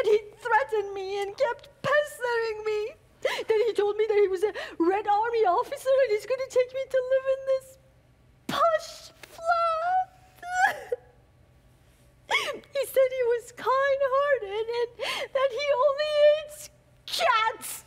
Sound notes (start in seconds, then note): none